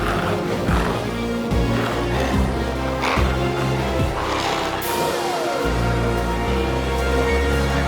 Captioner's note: glowzies growling continues; intense music continues